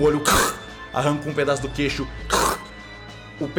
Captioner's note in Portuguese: som da aranha mordendo; som da aranha mordendo